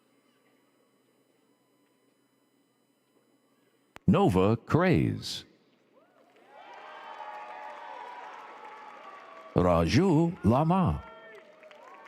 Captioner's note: applause